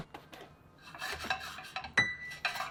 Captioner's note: pan rustling